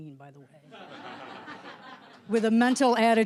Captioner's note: audience laughter